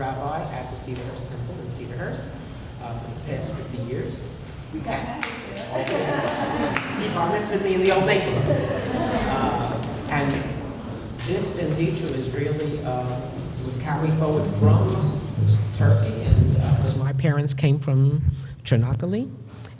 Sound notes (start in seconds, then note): 5.1 audience laughter and applause; 8.8 foreign language; 9.9 audience laughter; 11.5 foreign language